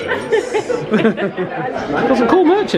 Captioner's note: laugh